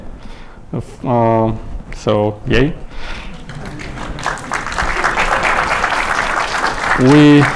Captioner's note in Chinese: 观众鼓掌